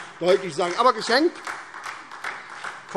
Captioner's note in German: Beifall SPD